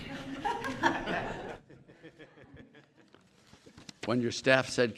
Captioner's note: laughter